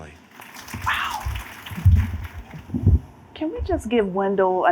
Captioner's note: applause